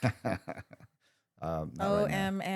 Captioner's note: laughs